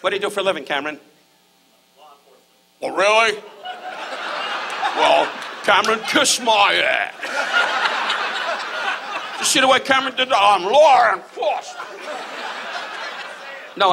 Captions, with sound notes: What do you do for a living, Cameron? - Law enforcement. - Oh, really? (audience laughs) Well, Cameron, kiss my ass. (audience laughs) You see what Cameron did there? "I'm law enforcement." (audience laughs)